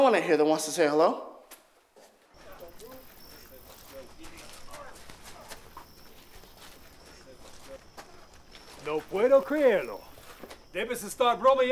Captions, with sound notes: that wants to say "hello." [night din] [speaking Spanish]